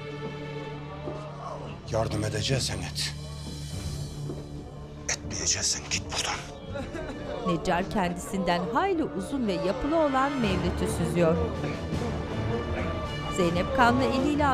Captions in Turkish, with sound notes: Yardım edeceksen et, etmeyeceksen git buradan. (Müzik - Gerilim) (İnleme sesleri)